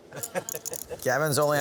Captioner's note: men laughing